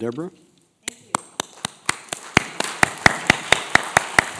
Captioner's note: applause